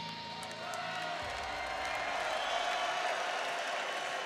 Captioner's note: crowd cheers